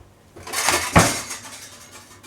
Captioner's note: extreme Noise of Utensils rattling